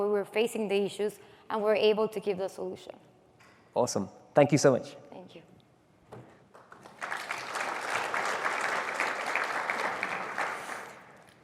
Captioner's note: applause